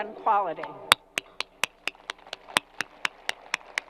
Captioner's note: applause